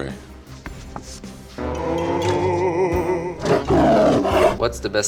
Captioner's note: monster moans and growls